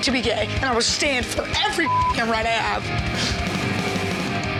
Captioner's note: beep